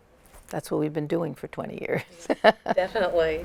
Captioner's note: laughs